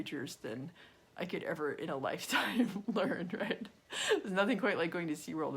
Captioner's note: laughs